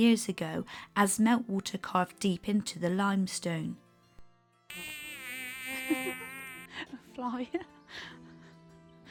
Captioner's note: fly buzzes